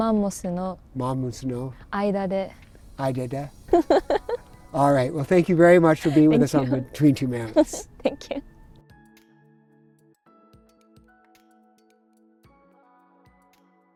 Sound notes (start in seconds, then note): 3.7 giggling; 7.5 giggles; 9.8 relaxing music continues